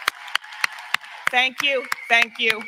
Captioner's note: applause; cheering